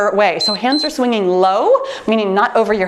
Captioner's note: timer beeps